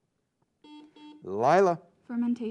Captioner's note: buzzing sound